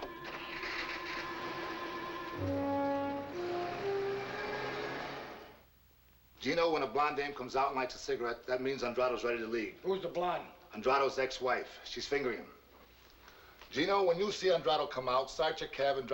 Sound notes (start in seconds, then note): 0.8 engine revving